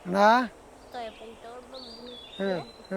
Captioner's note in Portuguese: canto de pássaros; fala em língua indígena